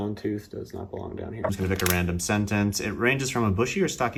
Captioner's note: flips through pages